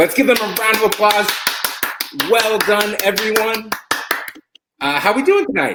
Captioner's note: applause